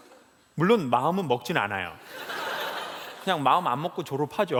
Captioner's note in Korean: 웃음